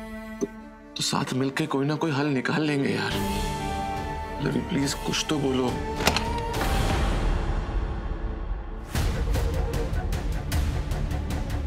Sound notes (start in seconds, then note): 5.8 door opens